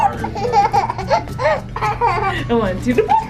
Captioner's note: giggles